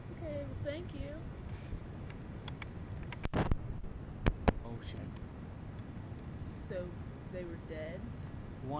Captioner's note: scraping, shuffling